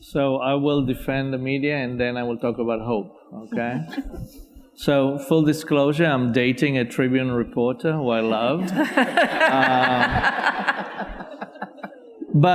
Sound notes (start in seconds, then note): 3.6 audience laughs faintly; 8.4 audience and panelists laughing